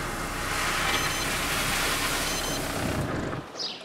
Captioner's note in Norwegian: biip biip